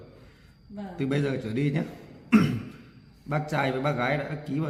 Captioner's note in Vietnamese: hắng giọng